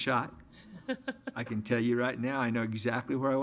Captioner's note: audience laughs